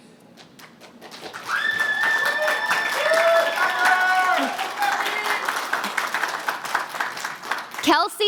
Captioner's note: applause